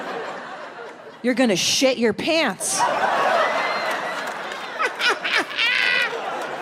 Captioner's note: laughs; audience laughs